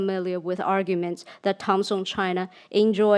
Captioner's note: speaks in foreign language